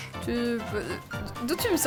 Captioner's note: groans